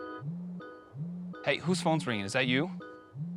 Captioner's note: phone ringing